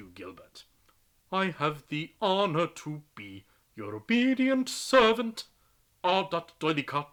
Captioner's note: sing-song